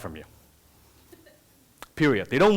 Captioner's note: laughter from audience